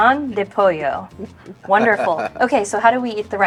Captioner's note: chuckling